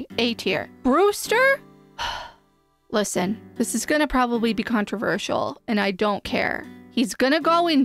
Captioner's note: sighing